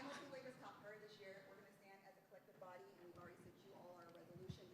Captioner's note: laughter